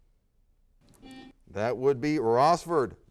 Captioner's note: buzzer sounds